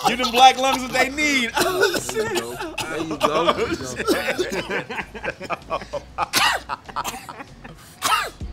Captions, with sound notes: Give them Black lungs what they need! (coughing) (laughing)